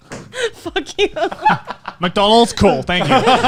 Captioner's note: laughing